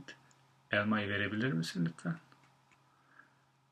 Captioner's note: non-english speech